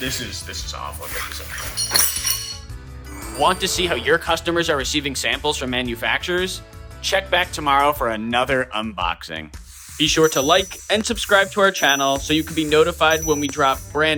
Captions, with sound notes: This is awful. (metal clanging)